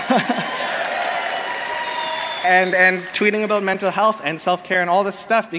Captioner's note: applause